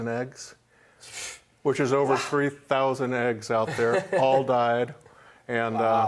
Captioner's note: laughs